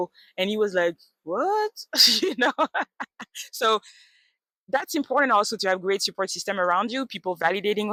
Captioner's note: laughs